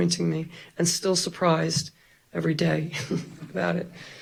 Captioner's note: chuckles